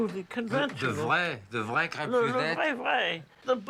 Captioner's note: speaking in foreign language